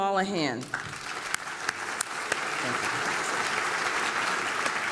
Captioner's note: applause